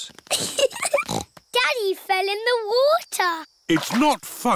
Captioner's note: giggling